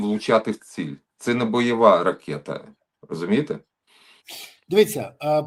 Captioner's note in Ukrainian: прочищення горла